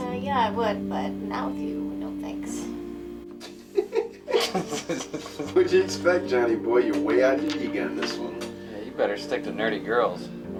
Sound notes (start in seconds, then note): 3.4 Russell and Hanee chuckling